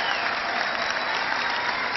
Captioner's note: cheering